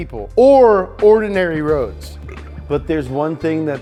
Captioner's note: burps